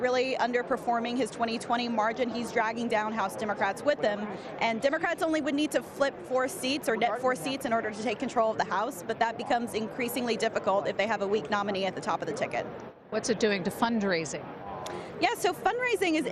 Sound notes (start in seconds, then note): none